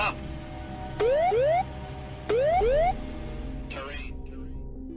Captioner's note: siren wails